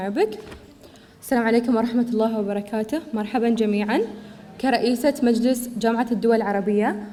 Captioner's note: student speaking in foreign language